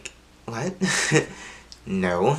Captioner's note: laughs sarcastically